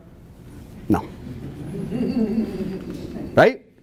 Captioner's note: audience Laughs